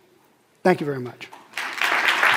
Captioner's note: applause